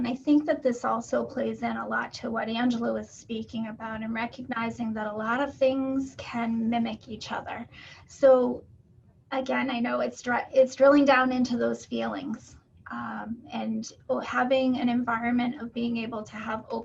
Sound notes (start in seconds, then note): none